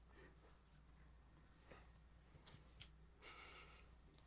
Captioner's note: all laugh